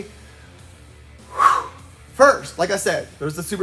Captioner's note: exhales